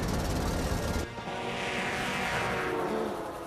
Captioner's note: train horn blares